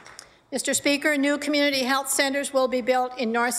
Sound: applause

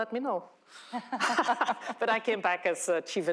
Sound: laughter

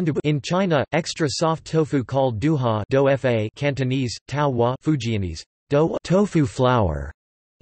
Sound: Cantonese

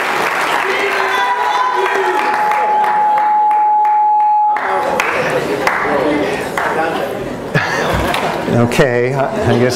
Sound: shouts

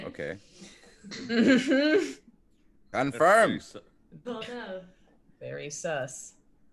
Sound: laugh

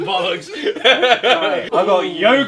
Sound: Ethan laughing

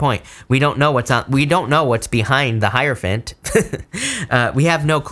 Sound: laughs

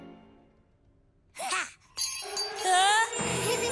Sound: bells ringing; nervous giggling

